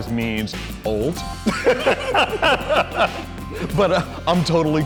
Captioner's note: laughter